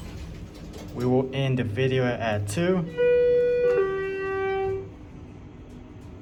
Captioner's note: Schindler 330A Down Chime